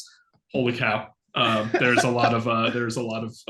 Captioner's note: laughing